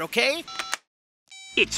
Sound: beeps

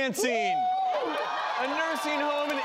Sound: cheering and clapping

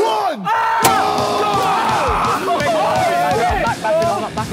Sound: all cheering

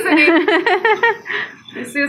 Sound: laughing

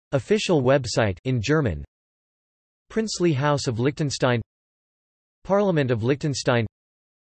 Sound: in German

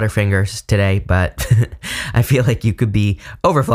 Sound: giggling

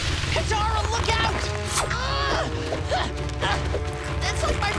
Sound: groaning

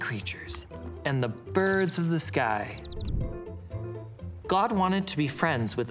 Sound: birds chirping

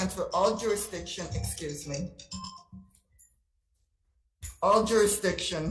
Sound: phone ringing

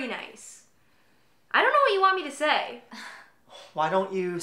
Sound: Alicia sighs

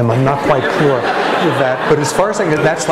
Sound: laughter

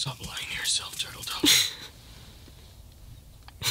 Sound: Turtledove laughs

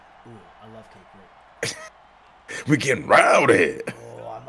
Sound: laugh

